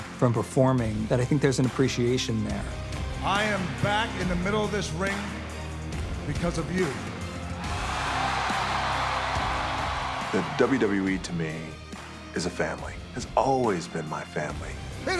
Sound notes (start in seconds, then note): 8.0 crowd cheering